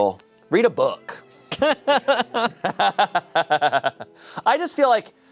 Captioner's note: everyone laughs